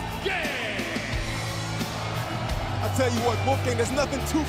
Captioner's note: crowd cheering